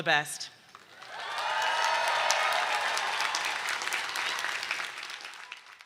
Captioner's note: audience cheering